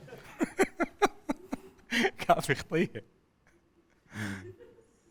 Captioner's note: Ali laughing